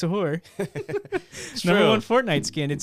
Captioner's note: laughing